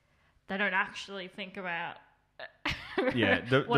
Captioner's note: laughs